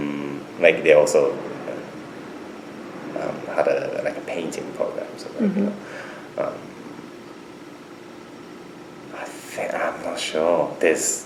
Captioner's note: laughs